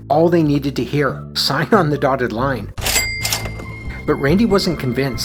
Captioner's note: cash register sound